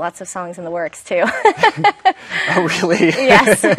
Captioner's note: laughs